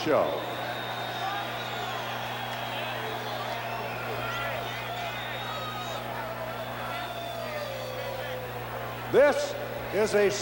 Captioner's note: applause